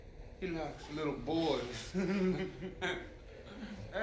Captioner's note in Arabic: ضحكات